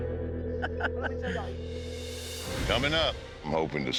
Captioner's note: laughs